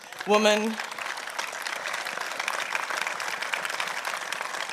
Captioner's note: applause